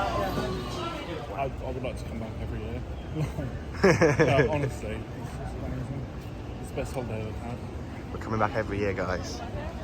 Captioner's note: laughs